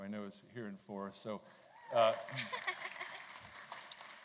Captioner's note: applause